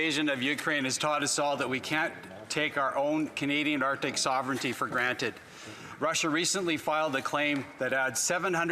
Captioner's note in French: voix de l'interprète